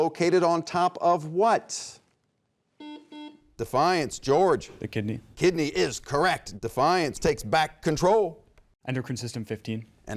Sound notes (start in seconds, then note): 2.8 buzzer beeps